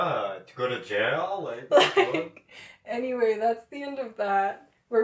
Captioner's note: laughter